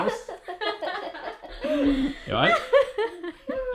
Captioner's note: laughing